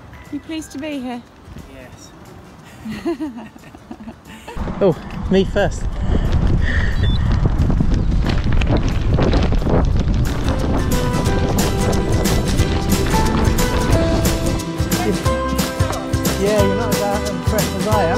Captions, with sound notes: You pleased to be here?. Yes [laughs] Oh me first